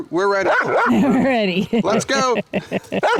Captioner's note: laughs